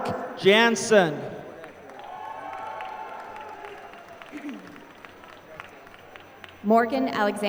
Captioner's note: applause